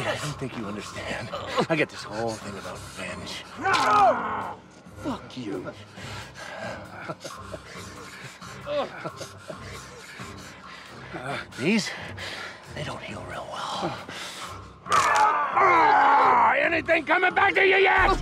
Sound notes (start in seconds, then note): 3.3 bone cracks; 3.6 screams; 5.0 laughing; 14.8 screams; 14.9 bone cracks